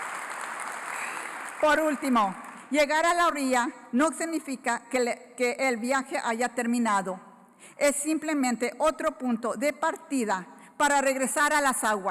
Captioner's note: applause; foreign Language Spoken